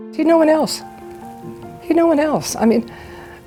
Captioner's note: holding back tears